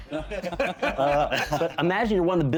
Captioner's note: laughing